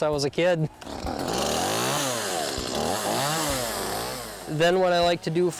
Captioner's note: motor revs up